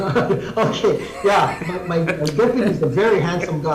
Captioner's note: laughs